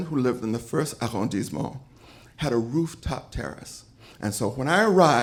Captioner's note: French language